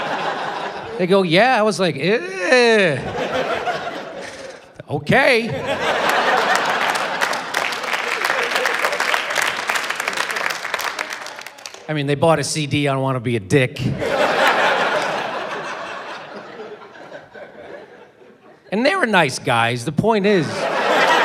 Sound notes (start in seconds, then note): 5.6 scattered applause, laughter